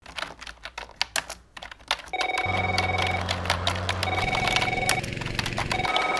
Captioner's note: keyboard clacking; phone ringing